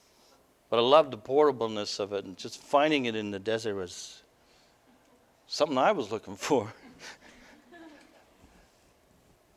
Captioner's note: laughter